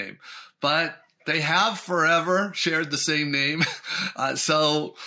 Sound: chuckles

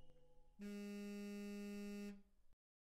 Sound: phone vibrates

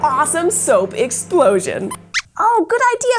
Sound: squeaks squeaks

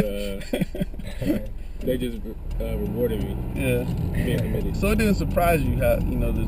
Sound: laugh

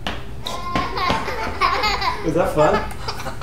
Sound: child laughs

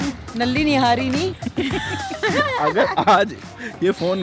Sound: laughing

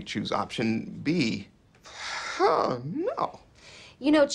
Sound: exhales

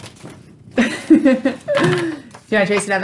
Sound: laughing

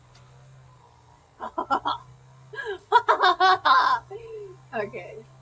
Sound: laughs

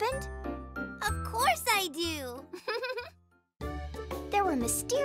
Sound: chuckles

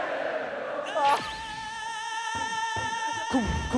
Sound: dying of laughter

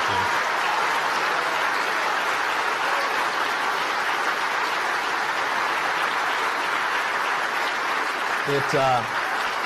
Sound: applause

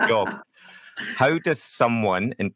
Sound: laughing

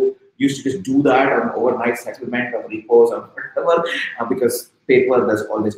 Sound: speaking softly

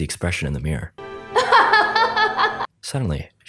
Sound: Tamiya laughing

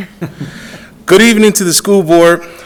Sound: audience laughs

